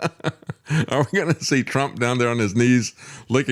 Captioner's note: laughs